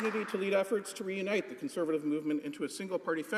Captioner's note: some Applause